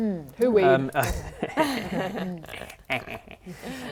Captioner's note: laughing